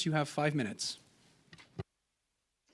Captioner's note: speaking French